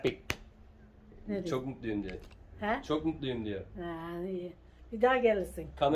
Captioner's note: speaking in foreign language